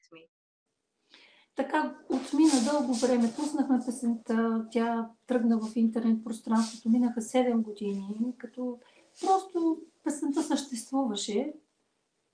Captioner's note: foreign Language followed by English Interpreter